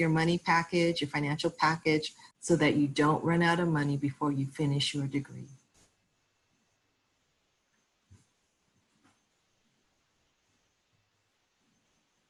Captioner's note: silence